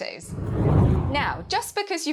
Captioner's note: hard whooshing